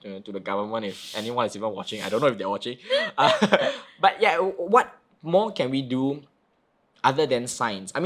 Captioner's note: laughing